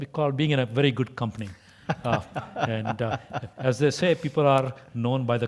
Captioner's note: laugh